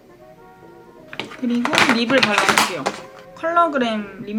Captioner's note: another breaking sound sorry guys ㅠㅠ